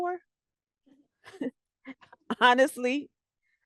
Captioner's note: laughter